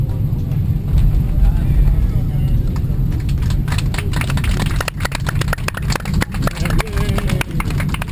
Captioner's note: applause